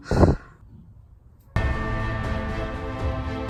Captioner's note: sigh